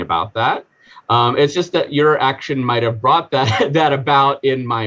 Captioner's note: chuckling